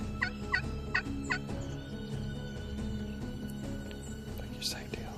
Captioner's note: turkey call yelps